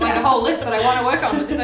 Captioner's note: laughing